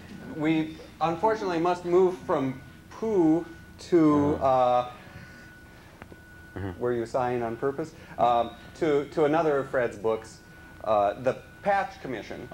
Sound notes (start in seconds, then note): 4.2 sighs